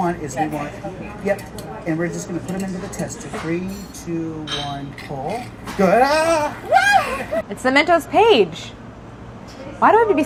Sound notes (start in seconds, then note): 5.9 yelping